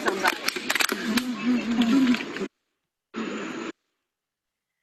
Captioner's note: clapping